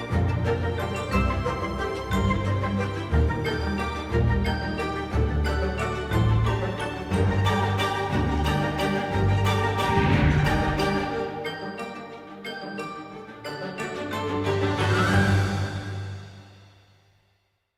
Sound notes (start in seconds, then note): 0.1 whimsical mysterious music; 9.7 air whooshing